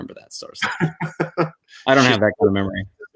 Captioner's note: laughter